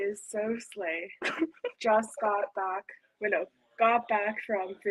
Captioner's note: chuckles